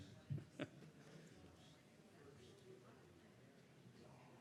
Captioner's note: chatter in background